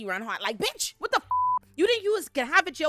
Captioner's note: beep